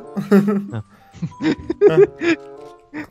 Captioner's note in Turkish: amaçsız gülüş